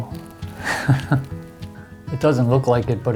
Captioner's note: laughs